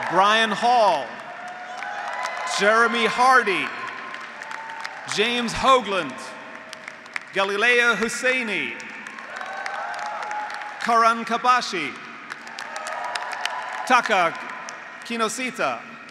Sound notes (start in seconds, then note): 1.7 graduates applauding; 1.7 graduates cheering; 4.3 graduates applauding; 4.3 graduates cheering; 6.9 graduates applauding; 9.4 graduates applauding; 9.4 graduates cheering; 12.3 graduates cheering; 12.6 graduates applauding